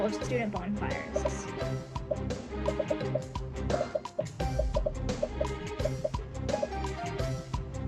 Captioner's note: dramatic music; popping